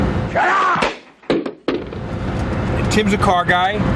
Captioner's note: yelling